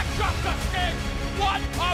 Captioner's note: crowd cheering